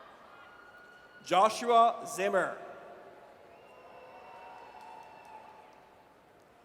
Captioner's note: audience cheers